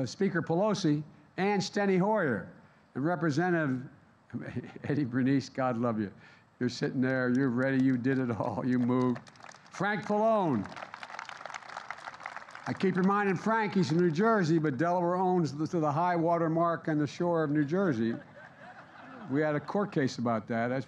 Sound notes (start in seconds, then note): 3.6 laughs; 7.5 applause; 17.9 laughter